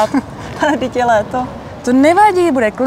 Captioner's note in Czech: Smích